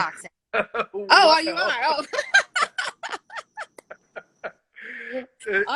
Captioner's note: laughter